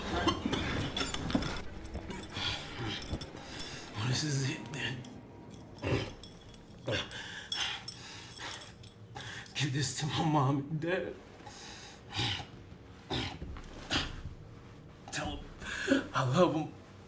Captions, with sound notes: [coughing blood] Well, this is it then. [coughs up more blood] Give this to my mom and dad. Tell them, I love them.